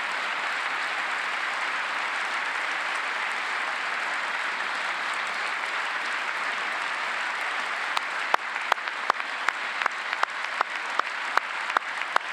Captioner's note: applause